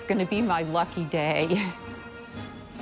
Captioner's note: chuckles